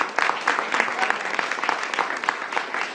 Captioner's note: applause